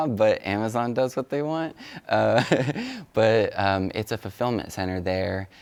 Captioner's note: laughs